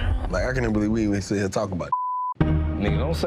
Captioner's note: beep